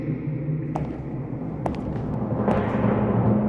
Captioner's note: footsteps; timpani roll